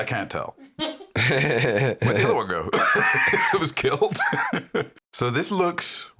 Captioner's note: laughs